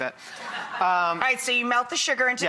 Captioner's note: laughter